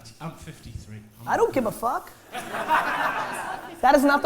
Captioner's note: laughter